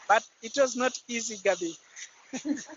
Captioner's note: laughter